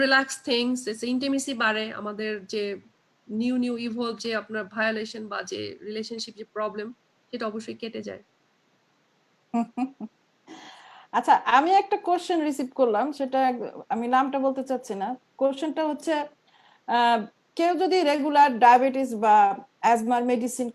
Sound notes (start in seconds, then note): 9.5 slight laughter